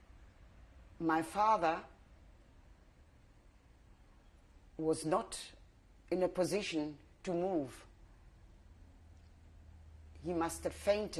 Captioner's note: pauses for 3 seconds